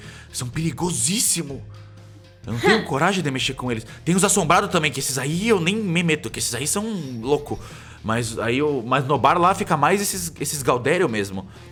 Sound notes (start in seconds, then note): 2.5 scoffs